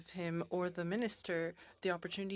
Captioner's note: speaking French